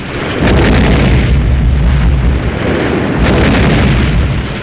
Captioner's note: explosions booming